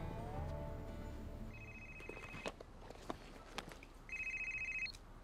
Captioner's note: phone rings